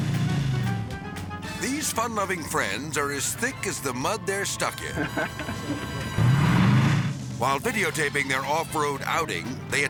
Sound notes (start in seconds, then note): 0.2 whimsical jazz music; 4.8 person laughing; 6.1 engine revving